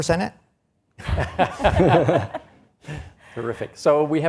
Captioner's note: all laughs